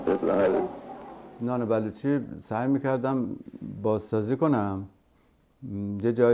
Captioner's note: speaking foreign language